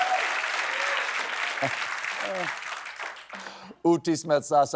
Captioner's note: cheers and applause